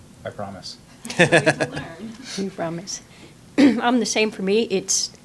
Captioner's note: scattered laughing